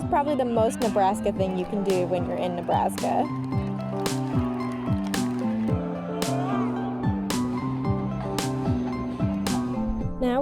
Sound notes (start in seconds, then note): 4.5 fans cheering; 7.9 upbeat music